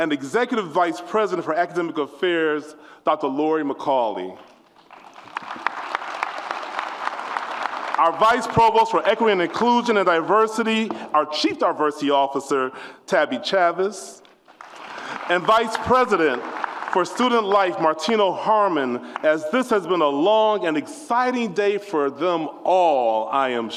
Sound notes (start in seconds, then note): 4.3 applause